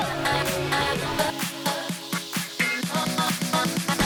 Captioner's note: crowd cheering